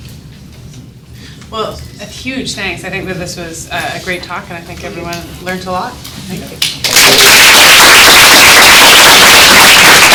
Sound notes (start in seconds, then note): 6.7 applause